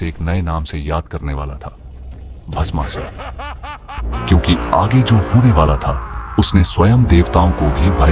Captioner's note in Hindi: हंसी